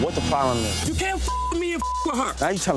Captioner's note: beep